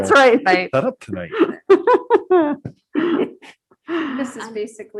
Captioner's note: group laughing